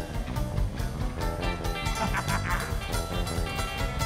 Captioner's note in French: rire